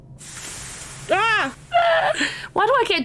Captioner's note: delayed scream